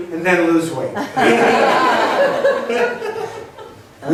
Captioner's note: laughs